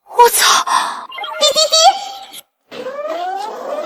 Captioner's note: beep beep beep